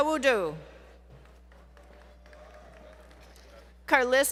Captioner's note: applause